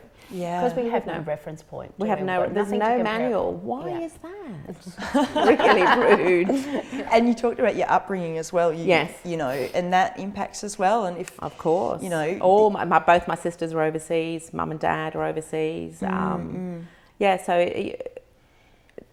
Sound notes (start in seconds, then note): 5.0 all laugh